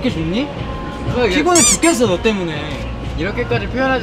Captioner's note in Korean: 재잘 재잘